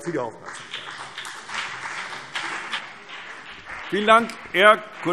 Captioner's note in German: Beifall CDU und BÜNDNIS 90/DIE GRÜNEN